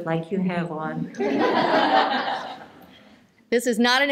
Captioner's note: laughter